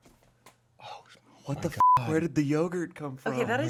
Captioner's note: beep